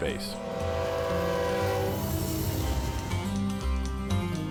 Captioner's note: train horn blasts